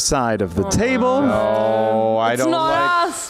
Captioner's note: groans